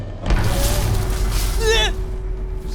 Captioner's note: crash; creaking; Dom cries out